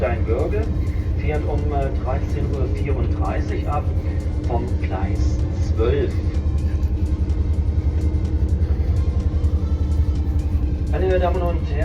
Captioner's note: train Announcement in German